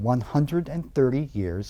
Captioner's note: none